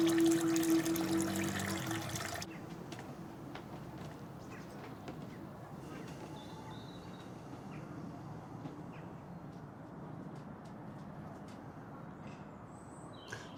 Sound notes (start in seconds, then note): 4.4 birds chirping